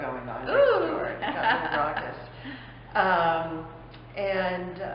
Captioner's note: laughter